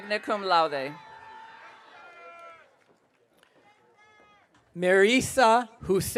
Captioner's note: audience cheering